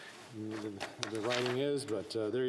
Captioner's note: speaking French